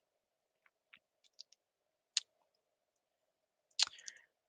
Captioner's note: clicking